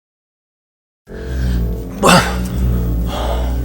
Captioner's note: grunt